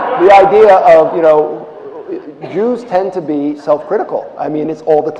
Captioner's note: laughter